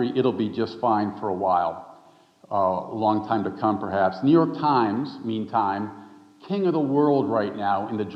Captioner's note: none